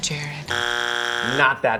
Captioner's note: loud buzzing